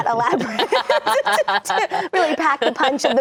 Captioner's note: laughing